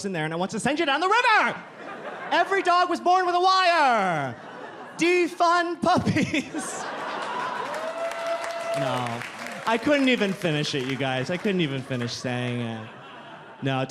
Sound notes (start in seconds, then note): 6.8 audience laughing